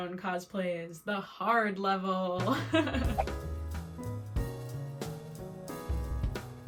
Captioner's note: laughs